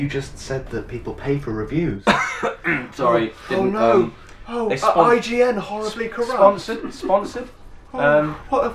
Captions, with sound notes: You just said that people pay for reviews. [Cough] Sorry. Oh no. Are IGN horribly corrupt? Sponsored? Sponsored? Erm...